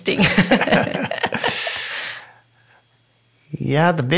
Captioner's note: both laughing